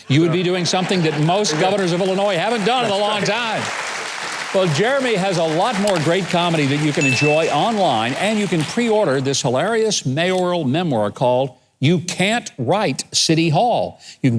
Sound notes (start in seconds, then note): 3.7 chuckles; 4.1 audience laughing and clapping